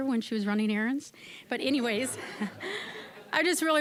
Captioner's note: audience laughing